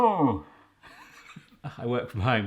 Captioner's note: snickers